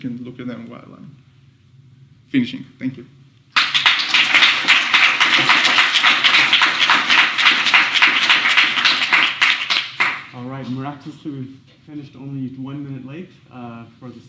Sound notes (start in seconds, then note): 3.5 applause